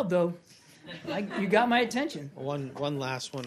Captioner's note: laughter